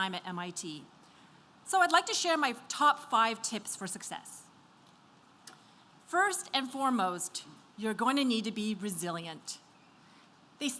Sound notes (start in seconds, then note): none